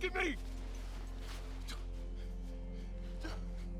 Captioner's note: breathing hard